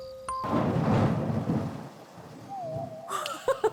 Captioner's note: thunder cracks